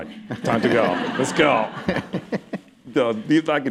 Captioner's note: laughter